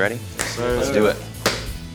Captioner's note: claps